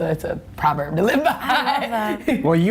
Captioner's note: laughs